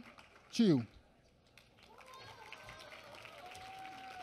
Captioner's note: applause